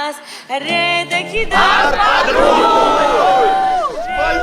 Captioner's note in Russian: хором